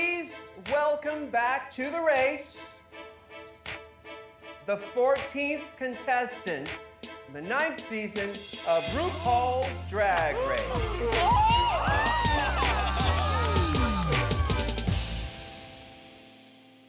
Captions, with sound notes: Please welcome back to the race... The fourteenth contestant. The ninth season of RuPaul's Drag Race! [contestants scream]